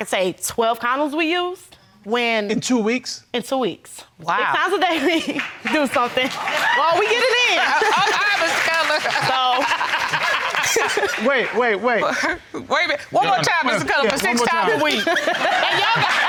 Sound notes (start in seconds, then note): 9.9 all laughing